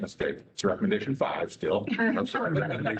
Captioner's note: laughter